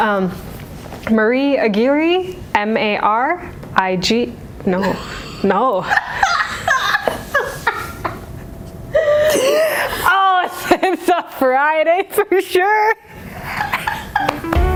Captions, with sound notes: Marie Aguirre-- M-A-R-I-G... No... No... **laughter** Oh it's a Friday for sure.